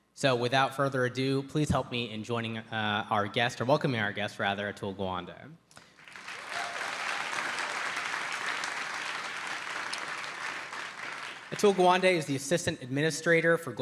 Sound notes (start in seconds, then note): 5.9 audience applauds